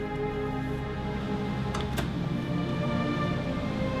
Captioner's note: wind howling